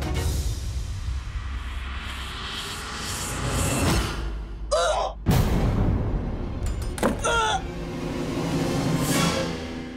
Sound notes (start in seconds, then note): 4.5 vomiting; 6.6 locking door